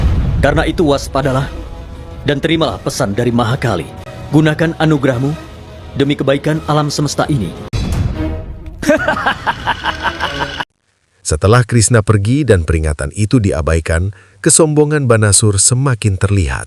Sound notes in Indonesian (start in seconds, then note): 8.8 tertawa